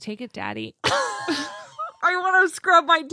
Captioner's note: laughs